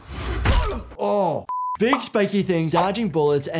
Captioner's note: Spider-Man grunts; high-pitched tone